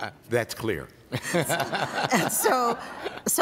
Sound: laughter

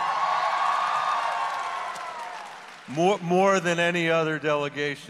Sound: audience cheers

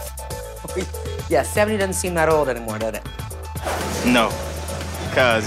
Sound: laugh

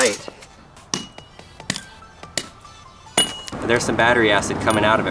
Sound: clanking

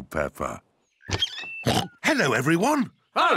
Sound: oinks

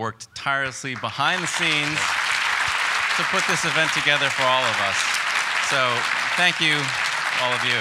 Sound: applause

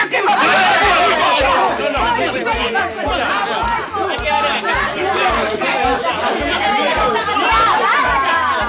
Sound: screams

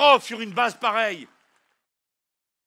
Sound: applause

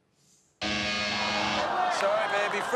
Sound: buzzer

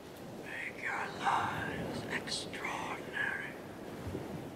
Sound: whisper

